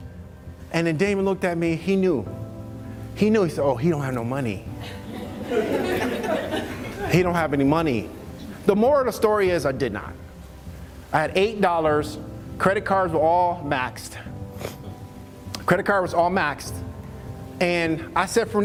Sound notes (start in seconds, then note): 4.8 laughs